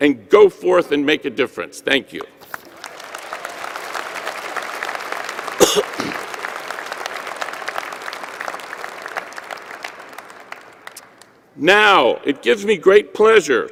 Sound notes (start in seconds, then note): 8.3 applause